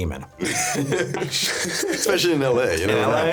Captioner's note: laughing